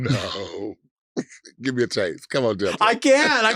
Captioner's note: chuckles